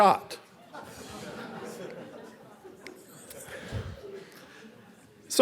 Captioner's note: audience laughing